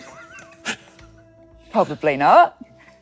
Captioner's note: person laughing